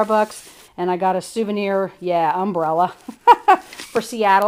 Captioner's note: laughs